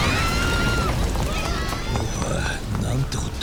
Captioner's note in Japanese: 叫び声